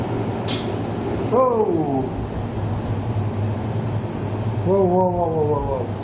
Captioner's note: loud tapping